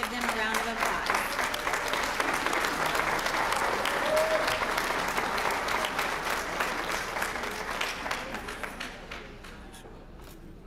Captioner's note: applause